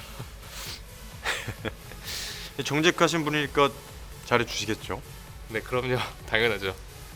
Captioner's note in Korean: 콧방귀